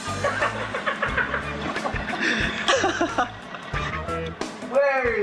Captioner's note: laugh